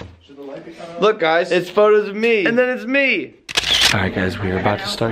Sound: camera taking a picture sound

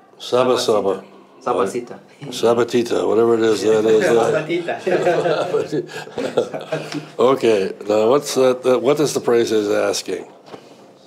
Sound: all laugh

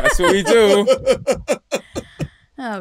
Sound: laughter

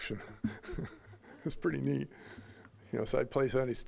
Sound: chuckling

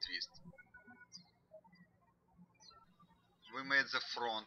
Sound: birds chirping

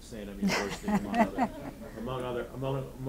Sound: audience laughing

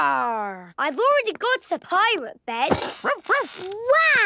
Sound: barking

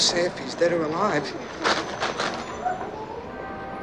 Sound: crumpling newspaper

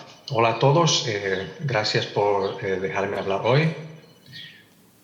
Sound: translator speaking in Spanish

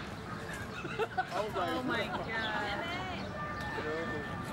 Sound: laughing

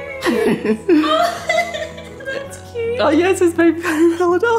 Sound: laughs

